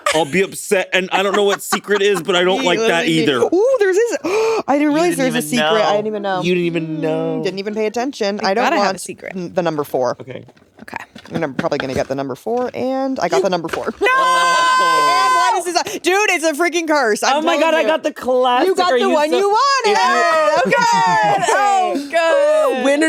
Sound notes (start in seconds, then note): 4.2 gasping; 14.7 all gasping; 21.5 all laughing